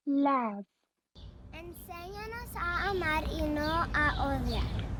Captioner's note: foreign language